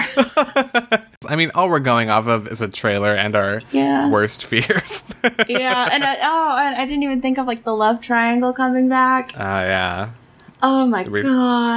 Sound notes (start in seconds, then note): 1.4 laughs